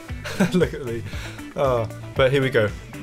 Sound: laughs

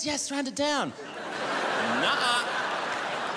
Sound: crowd laughs

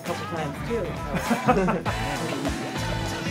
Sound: laughter

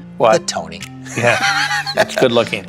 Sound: laughs

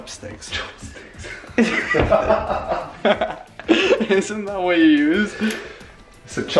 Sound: laughing

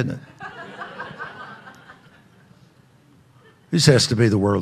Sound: audience laughing

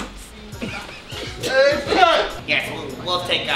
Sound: laughing

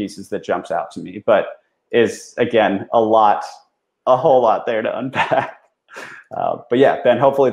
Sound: laughs

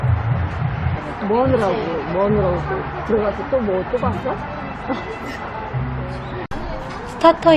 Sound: laughing

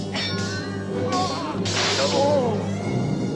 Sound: clinking; yelling

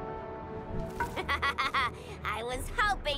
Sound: laughs

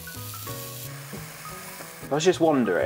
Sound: grill sizzling continuing

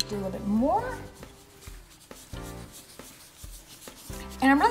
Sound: scraping

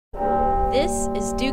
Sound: ringing bell

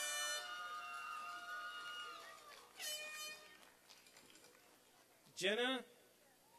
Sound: applause and cheering

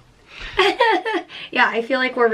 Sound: chuckles

